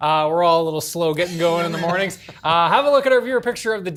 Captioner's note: laughter